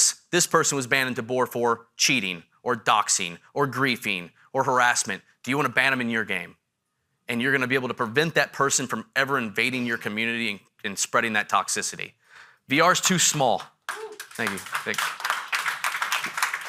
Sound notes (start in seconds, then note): 13.4 audience member hoots; 13.8 audience applauding